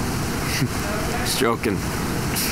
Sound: chuckles

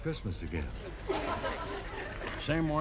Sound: audience laughing

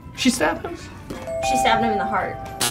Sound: buzzer buzzing

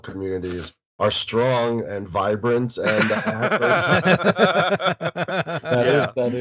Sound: laughter

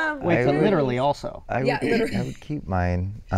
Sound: laughs

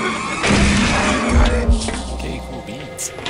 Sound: explosion

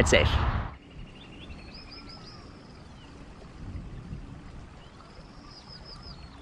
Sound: birds chirping; water flowing

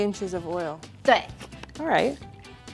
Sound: speaking in mandarin

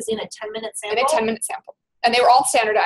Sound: voiceover

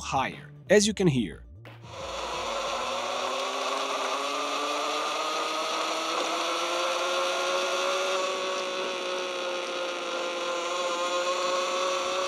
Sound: Zipforce noises

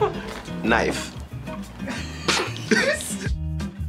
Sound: laughs; laughs

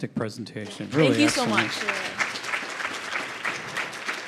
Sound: audience clapping

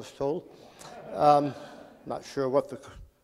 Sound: laughing

